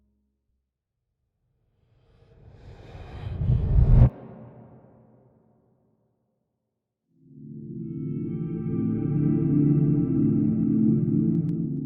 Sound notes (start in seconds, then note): 2.6 air whooshing; 7.3 intriguing music